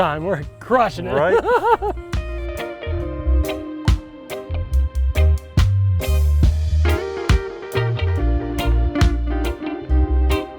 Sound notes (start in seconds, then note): 0.9 laughing; 2.9 gentle upbeat music